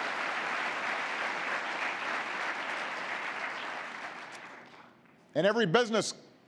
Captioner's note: applause